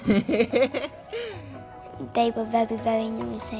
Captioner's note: laughing